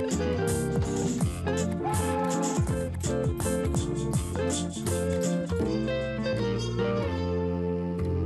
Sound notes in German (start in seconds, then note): 1.8 Zugpfeifen